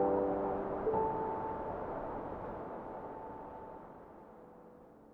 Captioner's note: wind blowing